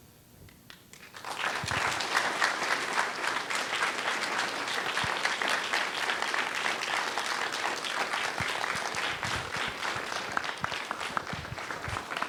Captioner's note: applause